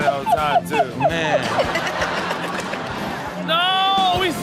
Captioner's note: everyone laughs